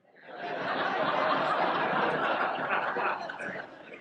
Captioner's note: audience laughs